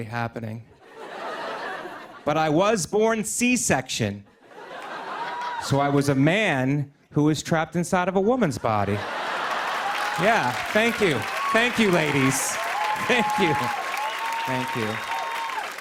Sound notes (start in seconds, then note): 0.8 laughter; 8.8 laughter and applause; 15.6 applause